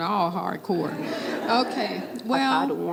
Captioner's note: laughter